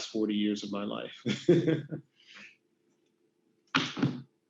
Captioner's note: laughs